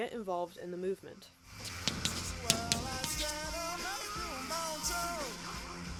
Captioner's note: chalk scratching